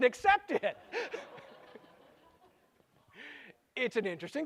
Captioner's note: laughter